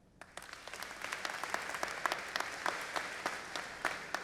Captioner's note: audience applauding